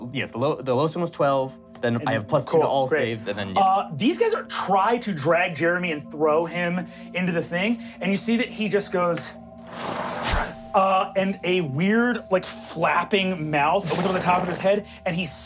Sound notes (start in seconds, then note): 9.6 blowing